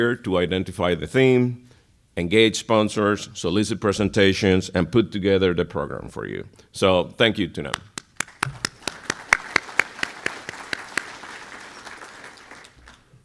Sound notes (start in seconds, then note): 7.9 applause